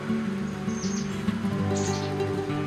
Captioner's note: bird chirping